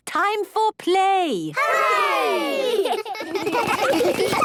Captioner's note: laughter